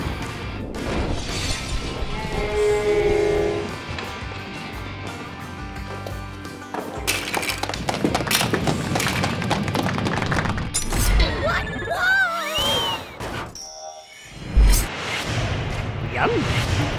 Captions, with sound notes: (groans) (banjo music) (crash) (clapping) - What, whoa! - Yum!